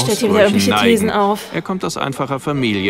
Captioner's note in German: seufz